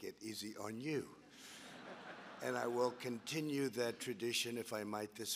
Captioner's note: laughter